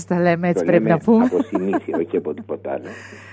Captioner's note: laughter